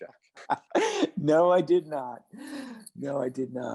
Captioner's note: laughs